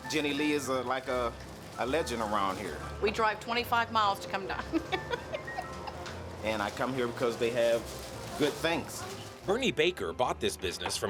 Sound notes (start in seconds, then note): 4.7 laughing